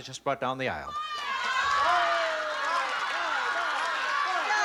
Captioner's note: shouting